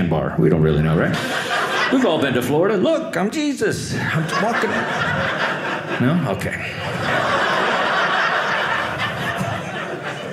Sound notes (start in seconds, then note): 3.8 audience laughing